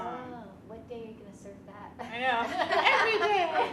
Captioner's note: laughs